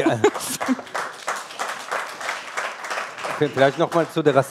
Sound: applause

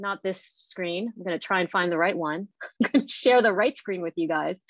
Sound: laughing

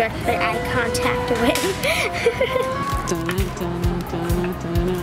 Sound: laughs

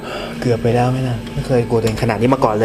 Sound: sigh

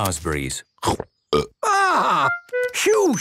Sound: burps

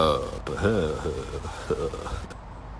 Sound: light laugh

